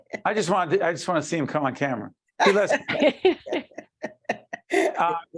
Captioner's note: laughing